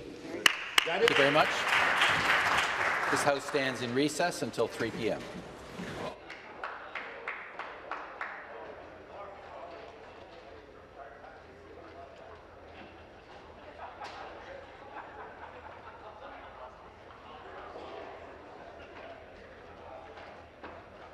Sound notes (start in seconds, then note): 6.2 applause